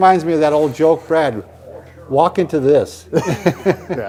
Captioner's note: laughter